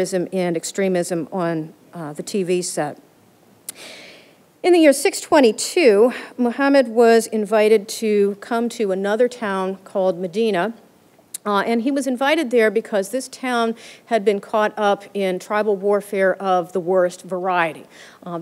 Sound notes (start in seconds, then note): none